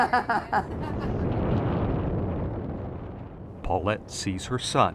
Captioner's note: laughing; wind whistling